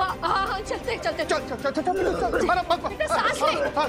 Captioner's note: coughs